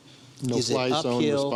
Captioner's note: overlapping chatter